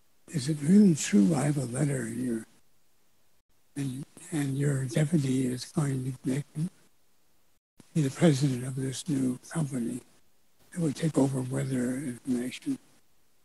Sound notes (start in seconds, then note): none